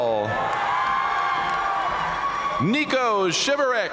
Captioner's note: audience cheering and applauding